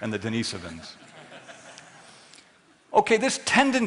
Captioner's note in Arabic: ضحك